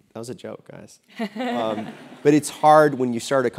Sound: laugh

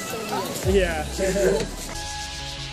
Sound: laughs

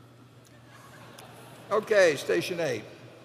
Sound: laughter

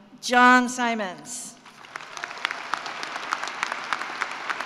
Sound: applause

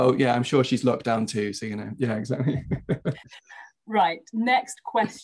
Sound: laughs

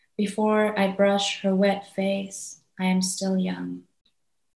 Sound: none

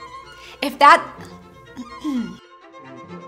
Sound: clears throat; energetic classical music

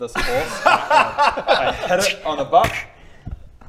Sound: roguish laughter

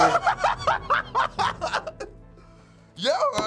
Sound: laughs

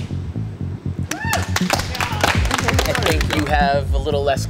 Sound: applause

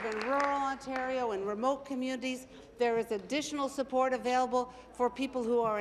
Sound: applause

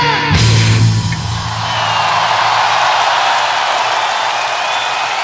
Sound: crowd applauding

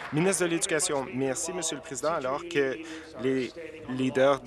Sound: applause

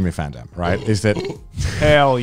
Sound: burps

